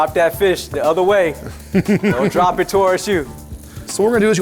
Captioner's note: laughter